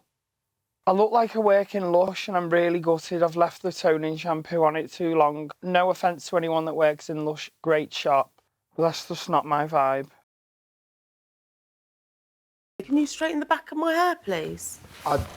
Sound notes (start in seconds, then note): none